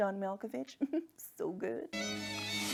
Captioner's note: giggles